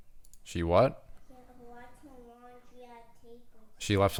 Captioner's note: kid talking in background